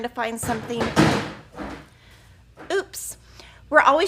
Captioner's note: loud crashing